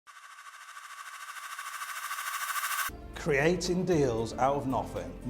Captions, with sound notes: (swooshing) - Creating deals out of nothing.